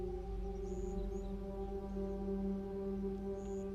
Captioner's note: eerie electronic music continues; birds chirping